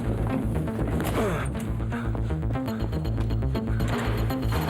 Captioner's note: John gasps